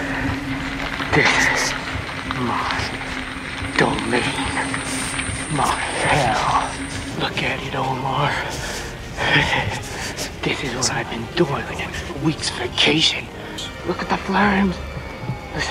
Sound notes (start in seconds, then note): 9.4 speaker chuckles